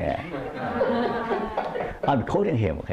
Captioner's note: laughter